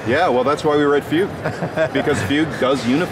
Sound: laughing

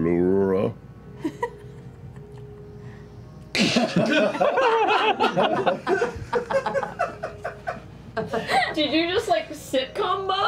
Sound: laughter

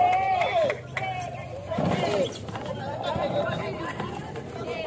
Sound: applause

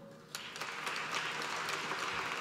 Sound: applause

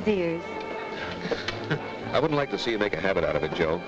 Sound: Joe laughs

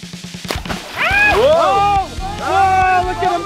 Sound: scream

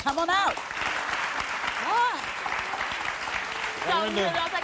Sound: audience applause

